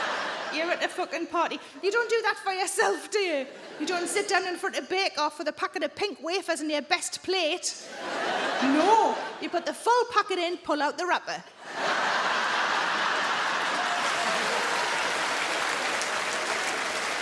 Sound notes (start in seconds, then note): 11.6 crowd laughs and applauds